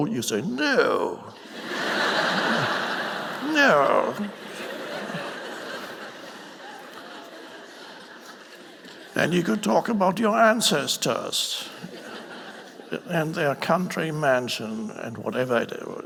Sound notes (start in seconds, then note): 4.3 audience laughing